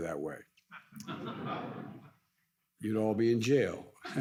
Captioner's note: audience laughs